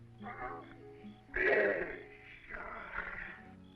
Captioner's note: grunting